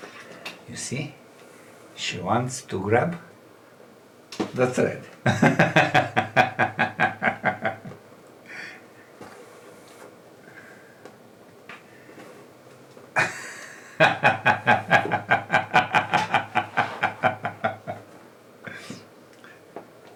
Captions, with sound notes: You see? She wants to grab the thread. [laughs] [laughs]